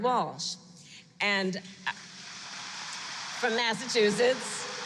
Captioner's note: applause